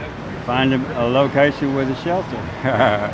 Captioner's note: laughs